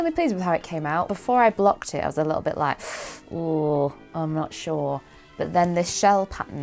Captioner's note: sucks in breath